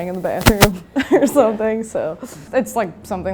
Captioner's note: laughing